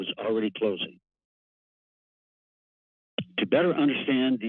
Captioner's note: pause